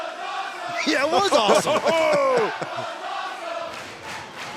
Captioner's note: chanting that was awesome